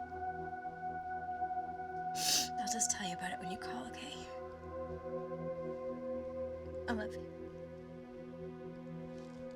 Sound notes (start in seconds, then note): 2.2 sniffles